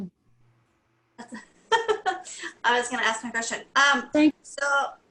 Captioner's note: laughing